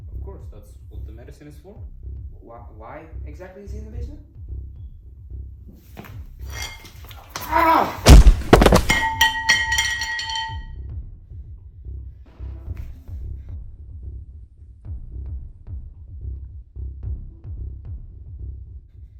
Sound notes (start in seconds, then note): 7.4 scream; 8.0 thunk; 9.0 clink